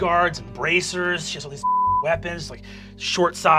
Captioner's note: beep